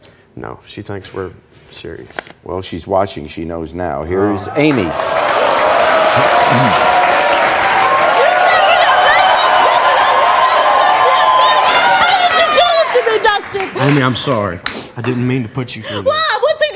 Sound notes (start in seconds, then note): 5.2 audience clapping; 7.8 yelling